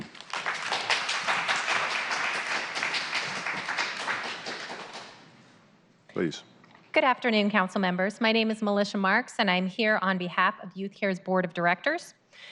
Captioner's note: applause